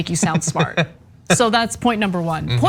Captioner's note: laugh